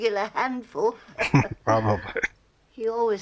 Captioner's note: chuckling